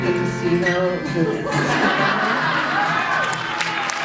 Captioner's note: laughter and applause